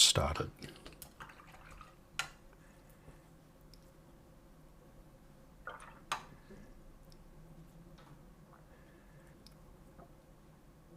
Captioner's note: silence